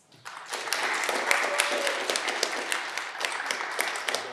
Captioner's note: audience clapping